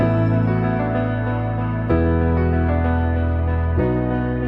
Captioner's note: none